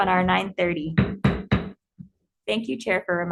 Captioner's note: gavel banging